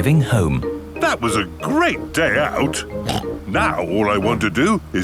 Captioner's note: snorts